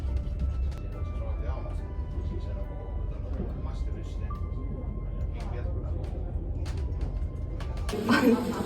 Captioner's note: snapping photos and engaging in lively chatter